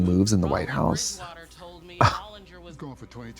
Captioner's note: Katya scoffs